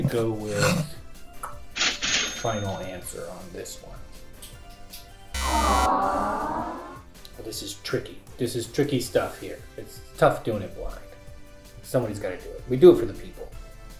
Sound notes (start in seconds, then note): 5.3 buzzer